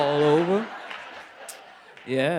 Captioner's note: laughter